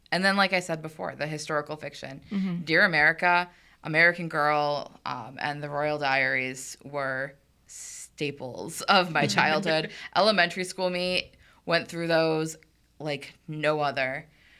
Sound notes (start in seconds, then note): 9.2 podcasters chuckling